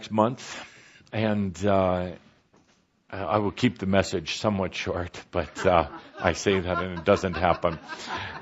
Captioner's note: laughter